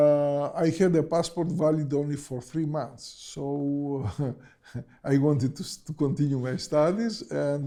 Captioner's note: chuckles